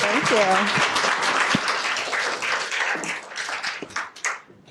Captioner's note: applause